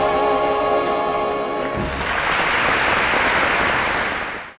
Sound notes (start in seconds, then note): 1.7 crowd applauding